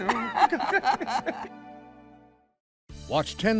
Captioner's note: laughing